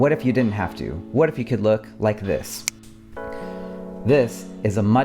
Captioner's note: snaps fingers